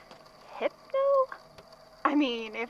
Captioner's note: taps paper